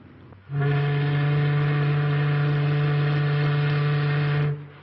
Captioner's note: ship's horn